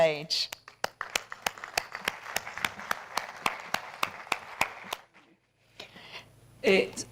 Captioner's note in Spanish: Aplausos